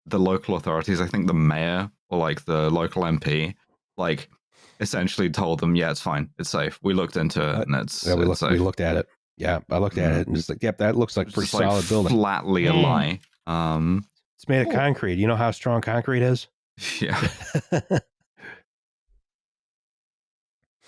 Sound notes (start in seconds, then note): 17.1 briefest of laughter